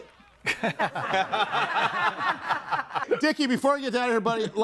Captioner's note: everyone laughs